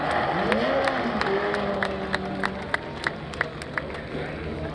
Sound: crowd clapping

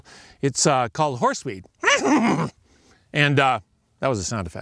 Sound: neighing

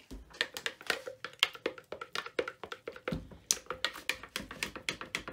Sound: stir stick clattering

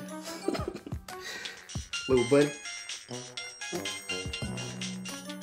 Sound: phone ringing

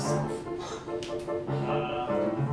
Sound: Sarah scoffs

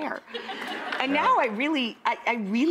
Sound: laughing

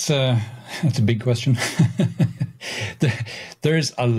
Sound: laughing

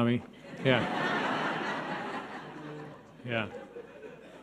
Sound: audience laughing

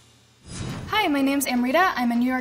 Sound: whooshing

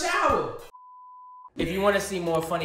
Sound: beep

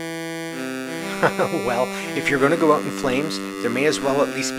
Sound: laughs

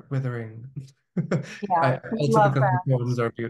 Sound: chuckling

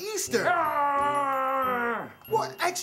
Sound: roars

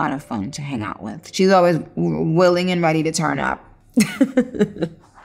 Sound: laughs

